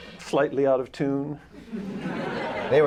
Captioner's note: laughter